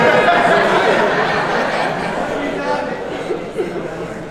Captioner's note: laughs